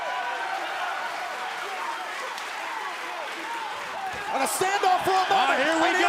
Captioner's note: crowd cheering